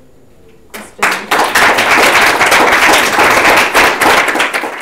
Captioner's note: audience claps